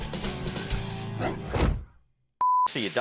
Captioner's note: upbeat music; whooshing; beeping